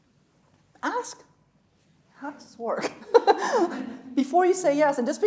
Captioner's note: chuckling